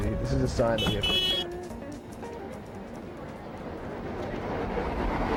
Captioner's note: horn honks